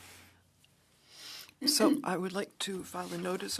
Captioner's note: speaking French